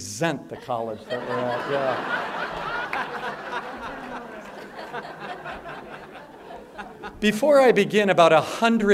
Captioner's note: laughter